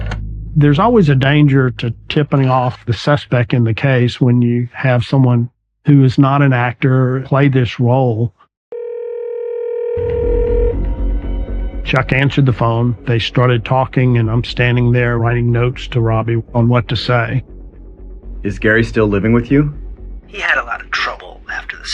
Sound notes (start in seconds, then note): 8.7 calling tone ringing